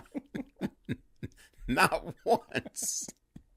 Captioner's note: Jagger giggling